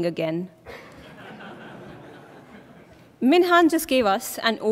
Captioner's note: laughter